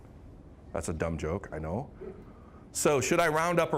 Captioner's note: scattered chuckling